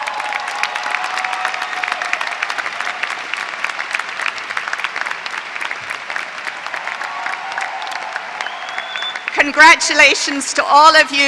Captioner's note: applause